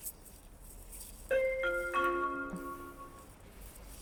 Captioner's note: chimes